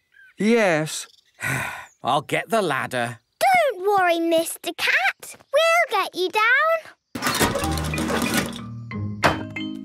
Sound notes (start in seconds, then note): 1.4 sigh